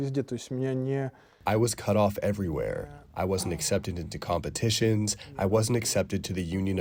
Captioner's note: through translator